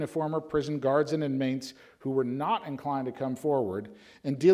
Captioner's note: none